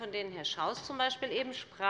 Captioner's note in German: none